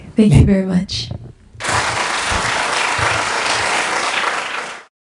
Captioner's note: audience applause